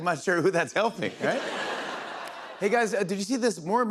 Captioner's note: laughter